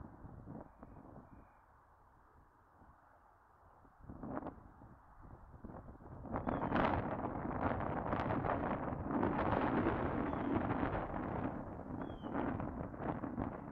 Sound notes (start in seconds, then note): 0.0 wind blowing